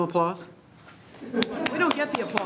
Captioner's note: all laughs